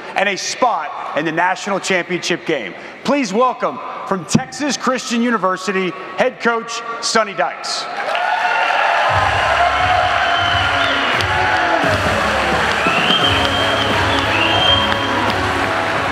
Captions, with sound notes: and a spot in the national championship game. Please welcome from Texas Christian University, head Coach Sonny Dykes. (upbeat music) (audience applauding)